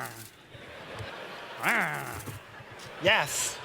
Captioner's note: growls; growls